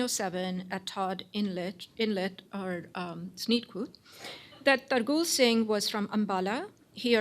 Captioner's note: non-english